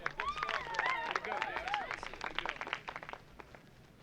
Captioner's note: cheering and applause